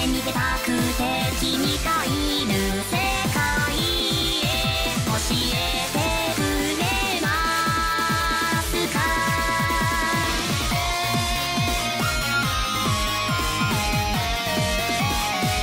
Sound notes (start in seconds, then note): none